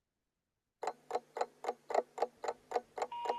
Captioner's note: clock ticks; phone rings busy signal